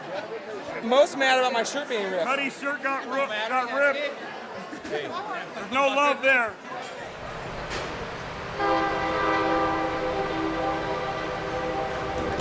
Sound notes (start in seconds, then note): 9.0 train blaring